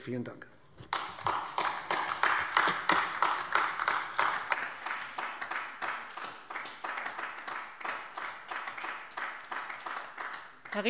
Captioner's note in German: Beifall AfD